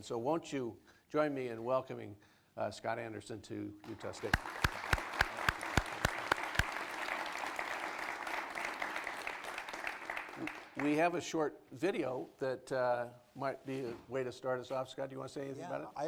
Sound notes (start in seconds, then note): 3.8 applause